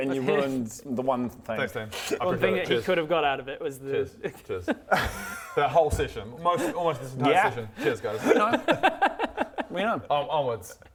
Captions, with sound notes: and you ruined the one thing thanks team - I appreciate it, cheers...cheers cheers - The one thing that he could have got out of it was the that whole session, almost this entire session YEAH cheers guys *regretful laughter* we know onwards